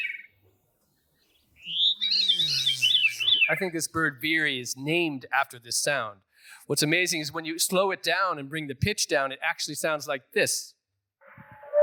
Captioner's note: bird song